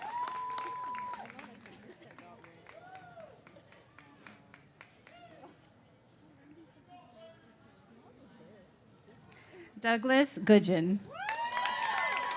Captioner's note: cheers and applause